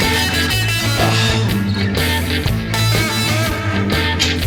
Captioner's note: Buck exhales loudly